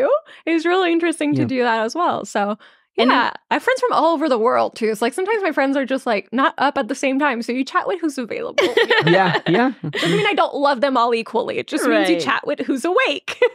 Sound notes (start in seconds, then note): 8.5 laughing